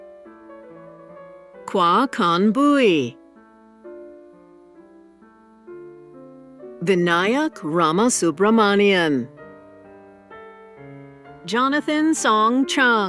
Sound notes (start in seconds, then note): none